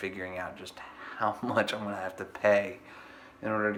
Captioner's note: laughs